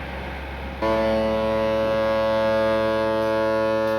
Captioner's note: horn